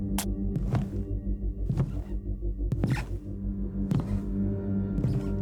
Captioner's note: footsteps thumping